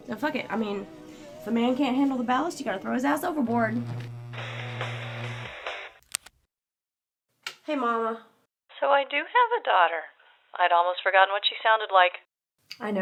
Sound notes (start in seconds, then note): 3.6 phone ringing